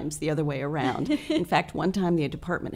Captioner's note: laughs